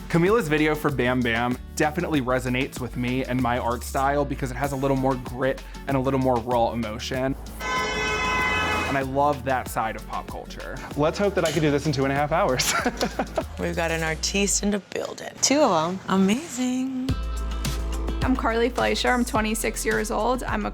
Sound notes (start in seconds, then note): 7.6 car horn blaring; 12.6 laughs